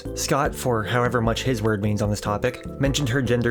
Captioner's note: none